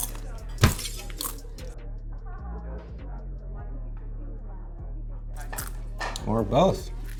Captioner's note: boy chomping snacks; people chattering; glass shattering; light thudding